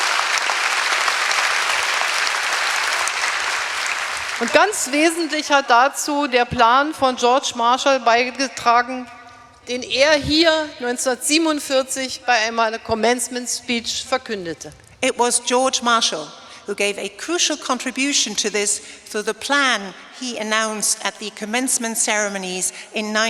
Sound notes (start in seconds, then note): 0.0 applause; 4.9 speaking in German